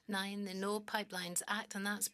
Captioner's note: speaking French